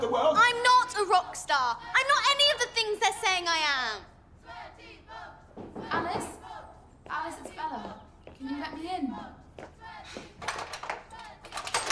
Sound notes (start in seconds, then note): 4.4 crowd chanting; 5.6 knock on the door